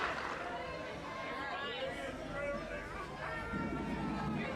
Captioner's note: people clamoring